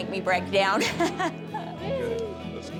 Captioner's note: laughs